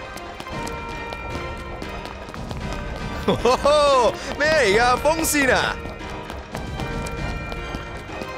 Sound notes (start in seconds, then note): 3.2 in Cantonese